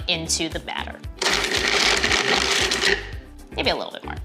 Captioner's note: whirring